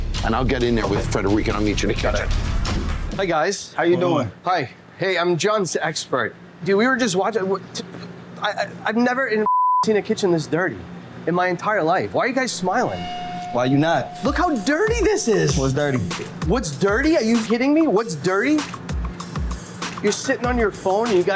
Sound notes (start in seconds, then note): 7.9 stuttering; 9.4 beep